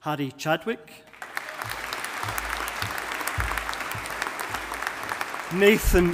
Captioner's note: audience applauding